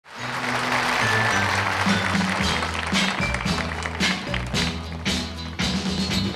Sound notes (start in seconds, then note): 0.0 audience applauding